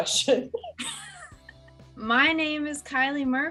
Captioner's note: laughter